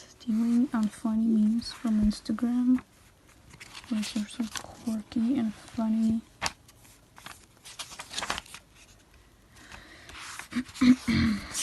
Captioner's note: cough cough